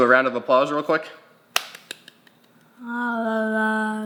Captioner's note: clapping